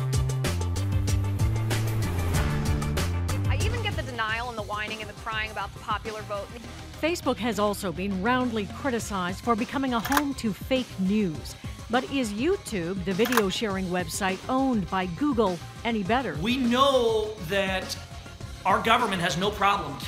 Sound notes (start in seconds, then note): none